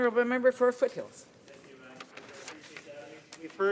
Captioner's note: speaking French